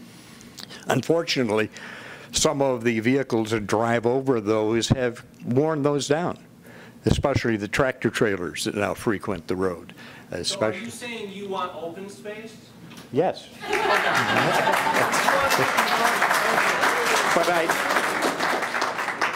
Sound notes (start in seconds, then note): 14.8 voice from audience; 18.8 applause